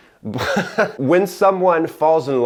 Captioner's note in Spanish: risas